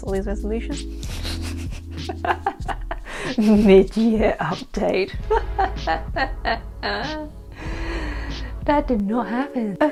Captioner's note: snorting and sarcastic laughter; more laughing